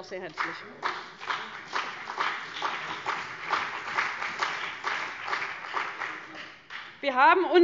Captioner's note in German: Beifall BÜNDNIS 90/DIE GRÜNEN und vereinzelt CDU